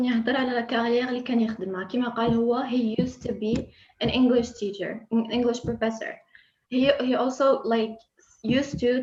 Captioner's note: Arabic